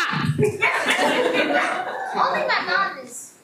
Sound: everyone laughs

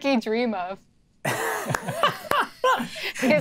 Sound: players laughing

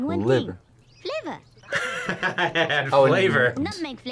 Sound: laughs

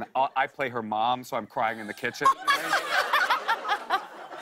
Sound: laughter

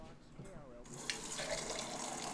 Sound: water running

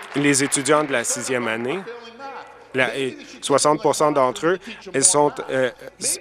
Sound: applause

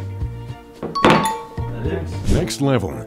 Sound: soft instrumental music; glass bangs against table; chimes

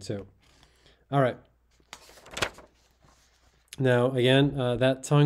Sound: page rustling

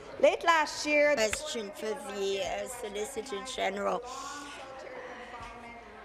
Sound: speaking in French

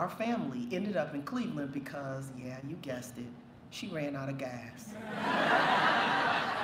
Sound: laughter

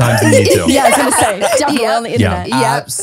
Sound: everyone laughs

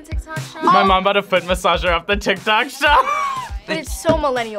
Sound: laughs

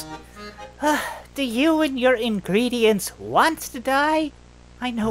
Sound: sighs

